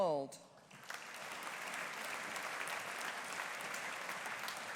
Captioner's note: audience applauding